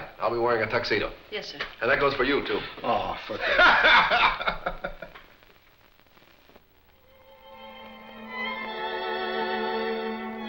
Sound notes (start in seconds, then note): 3.4 laughing; 6.9 gentle music